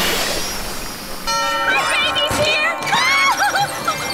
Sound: laughing

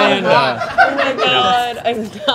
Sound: group laughing

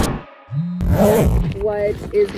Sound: phone vibrating; zipping bag

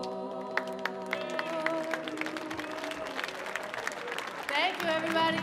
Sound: audience applauding; audience cheering

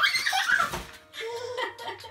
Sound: giggling

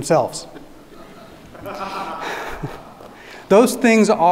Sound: audience laughing

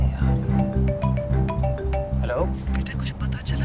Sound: phone ringing

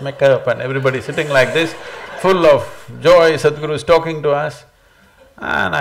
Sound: laughter

